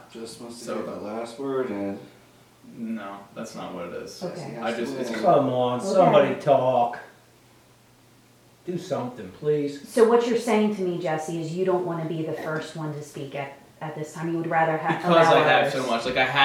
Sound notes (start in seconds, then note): 4.4 mumbling